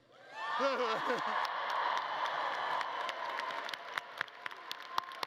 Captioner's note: audience cheering and clapping